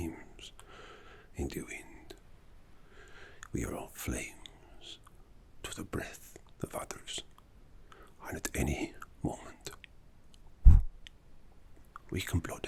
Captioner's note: exhale